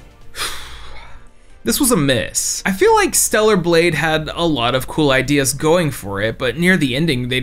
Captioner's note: sigh